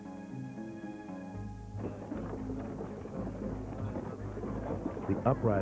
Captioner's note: chattering